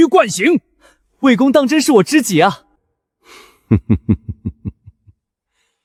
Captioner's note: chuckles